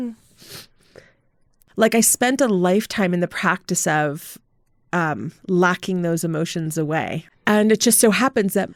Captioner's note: sniffling